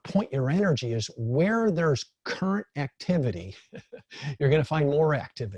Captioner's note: laughs